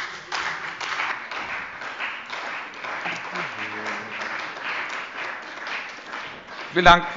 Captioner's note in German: Beifall bei dem BÜNDNIS 90/DIE GRÜNEN und der CDU